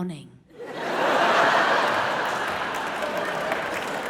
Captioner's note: audience laughs